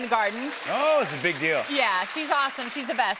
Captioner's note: applause